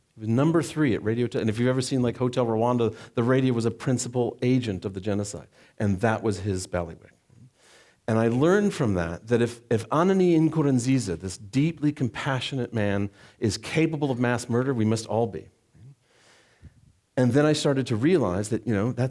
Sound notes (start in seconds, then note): none